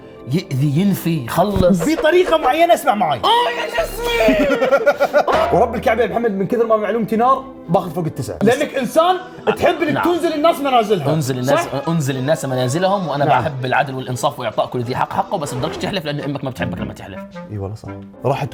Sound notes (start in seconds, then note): 4.9 laughs